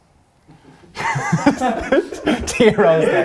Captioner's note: all laughing